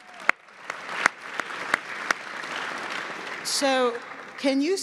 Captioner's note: audience applauds